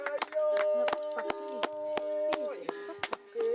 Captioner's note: chants